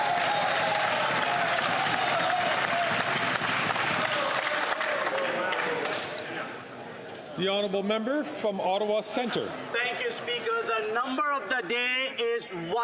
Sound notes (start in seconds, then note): 3.1 some Applause